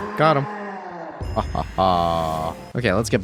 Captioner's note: evil laugh